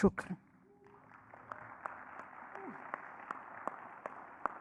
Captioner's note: audience clapping